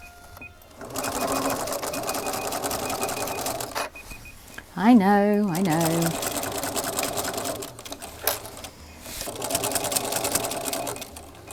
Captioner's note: still beeping